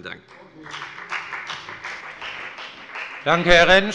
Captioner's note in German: Beifall bei der FDP